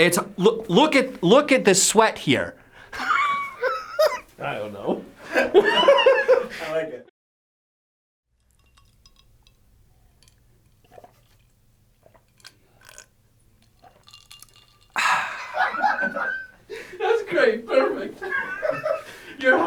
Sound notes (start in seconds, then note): 2.9 laughs; 14.9 exhales; 15.0 laughter